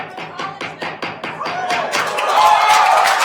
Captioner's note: gavel banging; attendees cheering and applauding